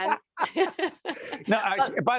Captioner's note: laughing